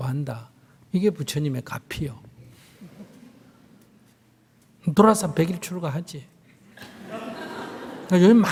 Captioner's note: audience Laughter